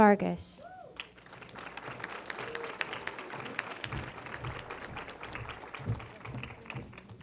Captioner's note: applause